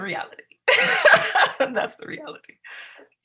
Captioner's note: laughs